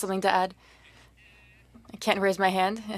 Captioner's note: speaking French